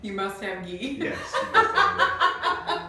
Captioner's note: laughing